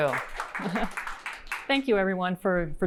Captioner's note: audience applauding